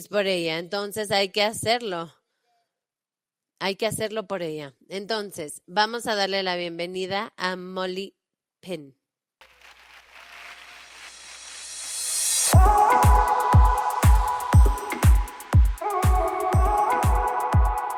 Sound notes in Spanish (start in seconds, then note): 9.4 aplausos; 12.8 música dinámica